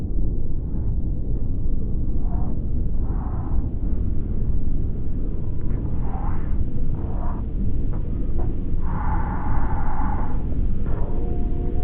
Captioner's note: wind noises and whispers of souls